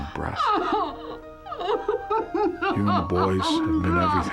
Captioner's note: sobbing